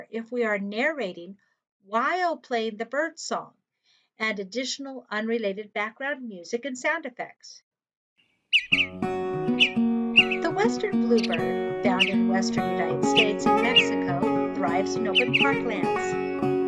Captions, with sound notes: if we are narrating while playing the bird song and additional unrelated background music and sound effects. (bird song and music) “The Western Bluebird, found in western United States and Mexico, thrives in open parklands.